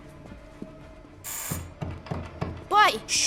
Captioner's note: buzzing continues